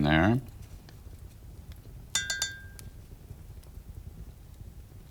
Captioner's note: brush clinks